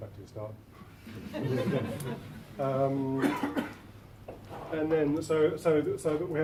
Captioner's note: laughter